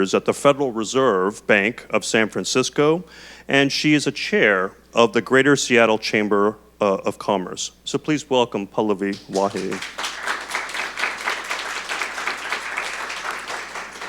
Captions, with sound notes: at the Federal Reserve Bank of San Francisco and she's a chair of the Greater Seattle Chamber of Commerce. So please welcome Pallavi Wahi. (audience clapping)